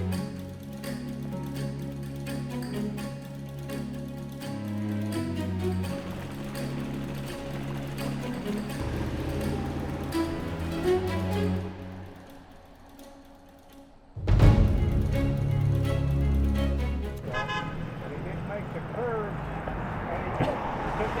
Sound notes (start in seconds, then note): 0.2 suspenseful orchestral music; 17.2 car horn honks